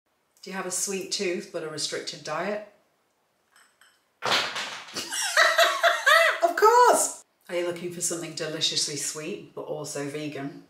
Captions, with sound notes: Do you have a sweet tooth, but a restricted diet? [GUMMIES HIT THE WOODEN FLOOR] [LAUGHS] Of course! Are you looking for something deliciously sweet, but also vegan?